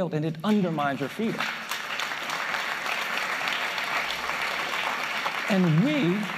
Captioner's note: applause